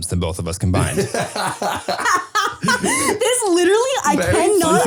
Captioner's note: laughing